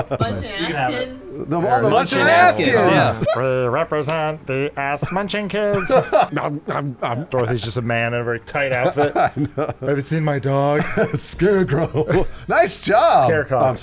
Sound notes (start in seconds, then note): 8.8 laughing; 11.3 laughing